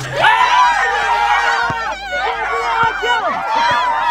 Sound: everyone cheering

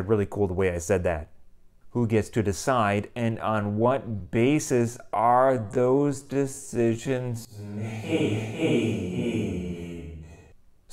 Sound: echo

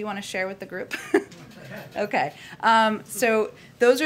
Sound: laughs

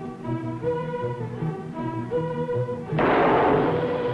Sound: gunshot

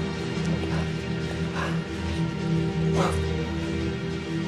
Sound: panting

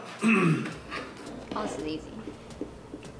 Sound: clearing throat

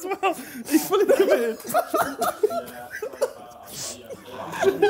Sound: laughing

